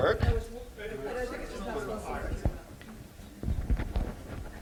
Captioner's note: background chatter